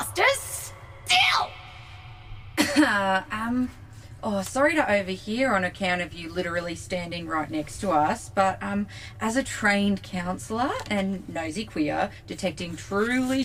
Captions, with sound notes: STILL! [Aurelia’s voice echoes through the cargo bay.] [Mo awkwardly coughs.] MO Sorry to overhear on account of you literally standing right next to us - but as a trained counsellor and nosy queer detecting truly